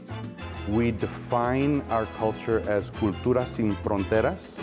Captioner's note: speaking Spanish